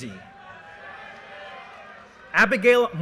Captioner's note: audience cheers and applause